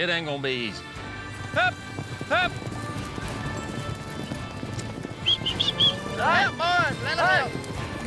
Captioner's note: shouting, whistling